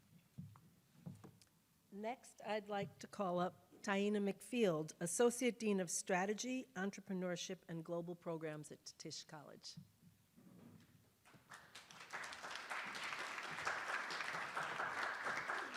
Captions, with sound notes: - Next, I'd like to call up Taina McField, Associate Dean of Strategy, Entrepreneurship and Global Programs at Tisch College. (attendees applauding)